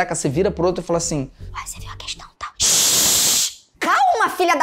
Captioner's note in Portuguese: sussurrando